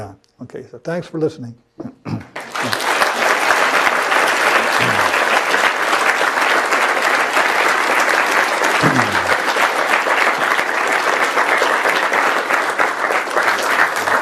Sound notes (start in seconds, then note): 2.3 applause